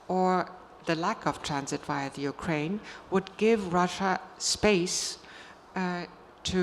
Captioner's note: none